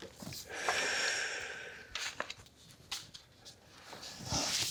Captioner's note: exhaling